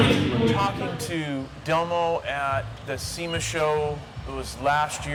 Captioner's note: voiceover